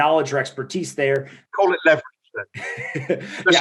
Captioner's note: laughing